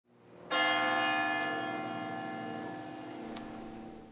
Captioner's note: bells chiming